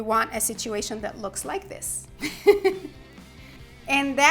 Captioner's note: laughs